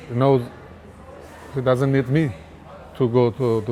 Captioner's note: crowd noise